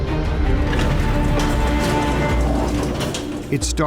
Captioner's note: sound of metal door opening